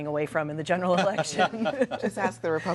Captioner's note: laughter